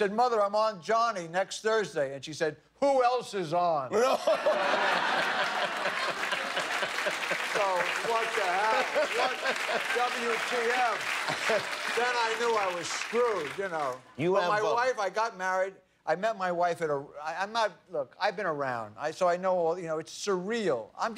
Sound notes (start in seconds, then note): 8.1 laughter; 10.3 applause